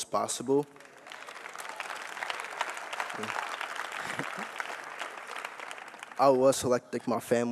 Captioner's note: applause